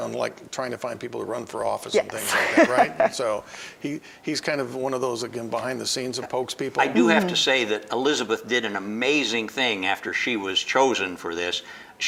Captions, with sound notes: on trying to find people to run for office and things like that, right? >> Yes. (laughing) >> He's one of those, again, behind the scenes who pokes people. >> I do have to say that Elizabeth did an amazing thing after she was chosen for this.